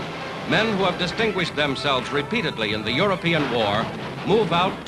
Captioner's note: whistling, explosions